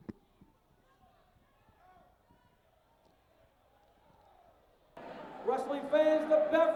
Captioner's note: crowd chatter